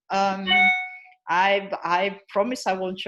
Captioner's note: chime